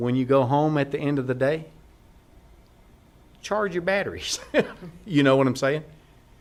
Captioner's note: laughter